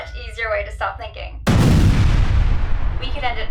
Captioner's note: boom